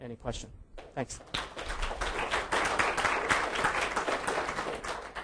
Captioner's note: audience clapping